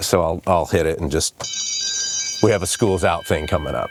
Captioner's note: bell rings